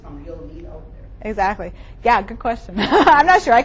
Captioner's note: laughs